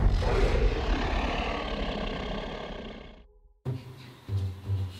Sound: dinosaurs growling

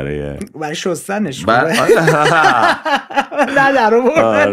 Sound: laughter

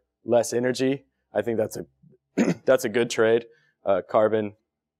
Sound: cough

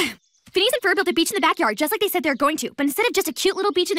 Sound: sighs

